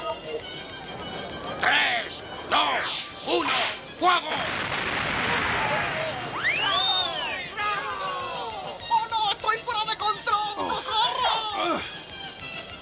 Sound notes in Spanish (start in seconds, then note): 6.9 ovación